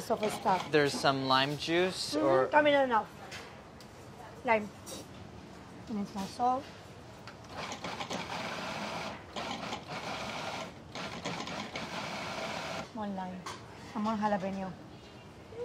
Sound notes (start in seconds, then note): 7.6 food processor pulses